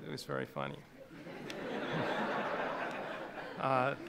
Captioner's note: laughing